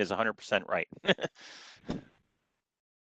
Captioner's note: laughter